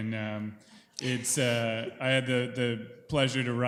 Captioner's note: group chuckling